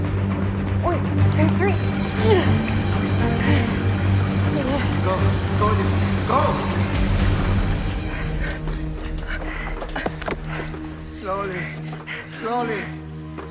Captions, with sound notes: One, two, three! [Grunting] Go, go Olive, go! [Panting] Slowly, slowly.